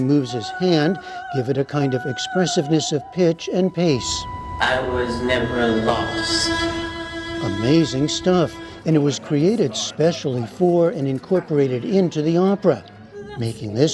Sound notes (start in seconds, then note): 5.4 through A.I. voice